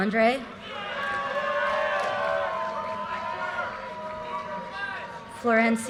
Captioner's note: audience cheers and applause